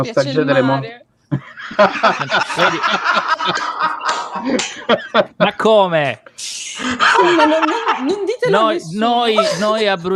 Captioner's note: laughs